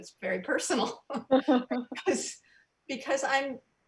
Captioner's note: loud laughs